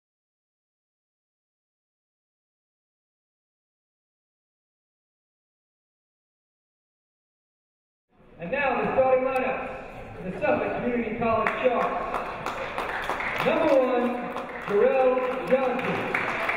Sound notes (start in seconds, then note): 11.4 clapping